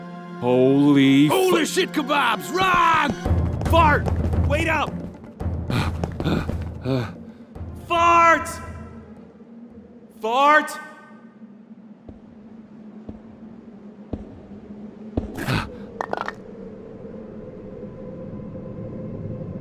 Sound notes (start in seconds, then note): 5.7 panting heavily; 12.0 quiet footsteps approaching; 15.4 POOPLOSER_69 gasps weakly